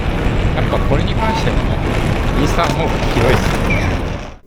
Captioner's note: wind noise audio